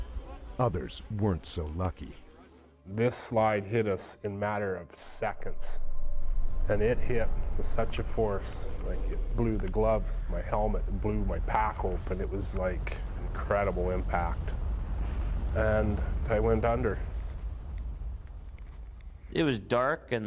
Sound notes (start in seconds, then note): 10.4 voiceover